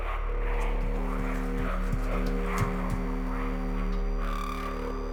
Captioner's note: rapid footsteps